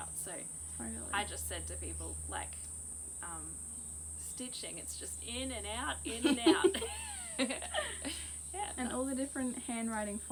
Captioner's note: both giggle